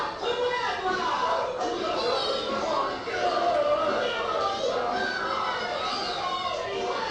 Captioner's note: yelling